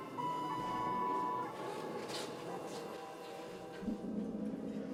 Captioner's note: ascensor tono de los anillos; ominosa de la música electrónica